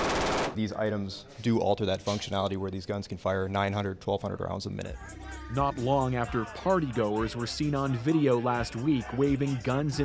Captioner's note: machine gun shooting